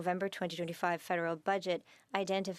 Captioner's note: speaking French